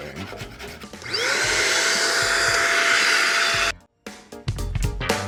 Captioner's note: vacuuming; light funky music